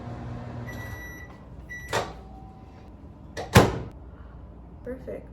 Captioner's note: microwave beep